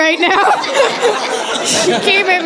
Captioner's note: laughter